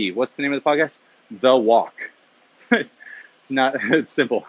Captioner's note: laughs